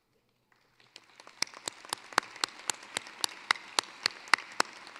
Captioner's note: applause